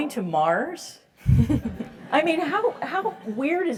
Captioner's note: laugh